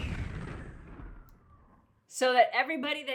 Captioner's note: bomb exploding